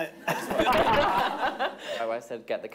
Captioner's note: everyone laughing